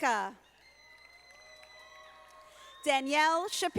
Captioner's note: audience applauding